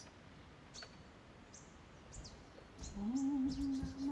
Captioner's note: sound of birds